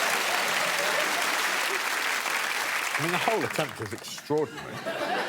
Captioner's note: applause